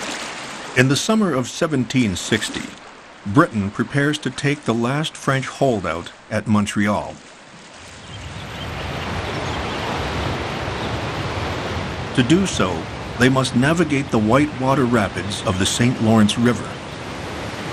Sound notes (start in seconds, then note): 7.8 birds sing; 8.1 water rushes